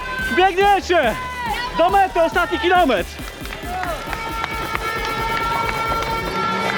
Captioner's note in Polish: Aplauz